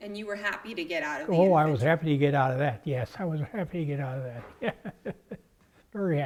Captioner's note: laugh